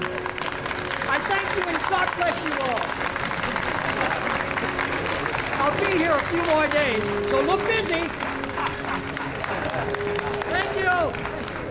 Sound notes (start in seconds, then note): 0.1 applause; 8.2 chuckles